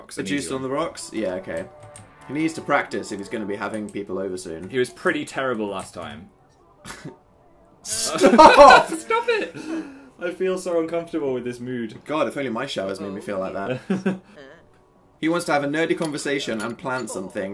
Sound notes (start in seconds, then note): 9.0 high pitched